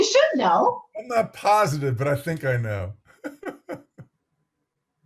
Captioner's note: laughs